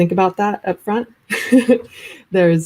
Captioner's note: chuckles